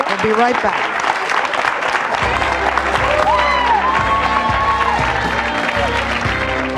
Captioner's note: audience applauds; audience cheering; upbeat music